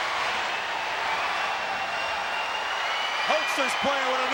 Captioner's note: crowd yelling